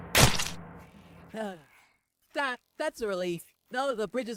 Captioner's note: sigh